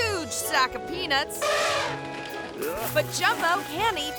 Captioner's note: elephant trumpeting